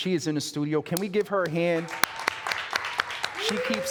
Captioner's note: audience applauding